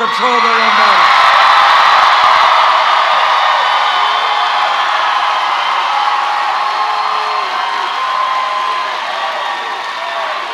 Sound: cheers

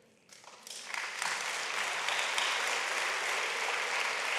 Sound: audience applauds

